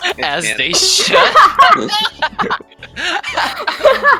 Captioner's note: even bigger laughter